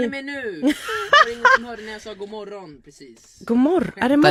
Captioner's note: laughing